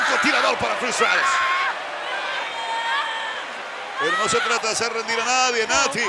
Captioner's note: applause